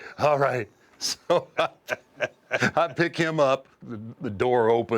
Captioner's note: laugh